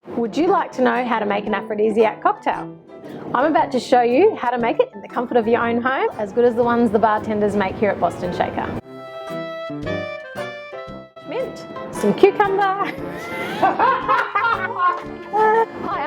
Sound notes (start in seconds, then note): 12.8 laughter